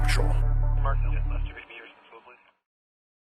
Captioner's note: communication Emergency Messages on Microphone